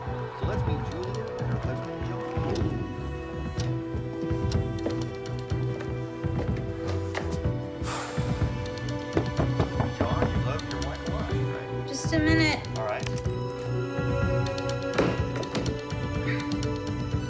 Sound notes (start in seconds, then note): 7.8 exhales deeply